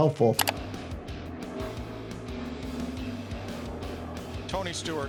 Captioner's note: button clicking; upbeat music